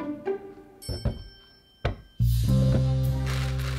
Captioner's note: bananas dropping